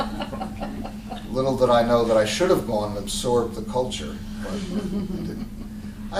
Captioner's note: laughter